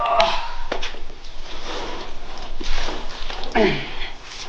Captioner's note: groans